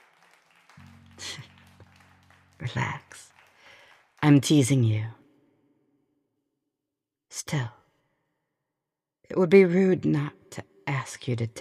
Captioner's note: music ends, applause; chuckling